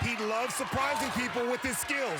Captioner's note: cheering